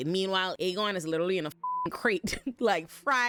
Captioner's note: beep